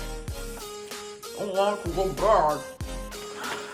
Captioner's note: mouthful mumbling